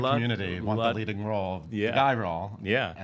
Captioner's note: voice muffled